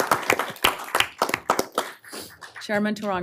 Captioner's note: applause